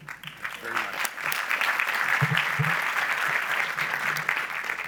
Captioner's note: audience applauds